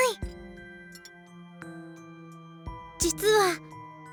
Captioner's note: silence